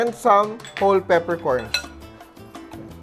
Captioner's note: clang